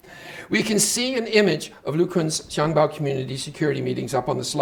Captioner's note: speaking Chinese